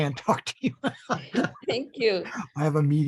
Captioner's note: laughter